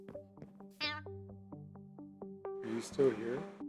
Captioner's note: creature sound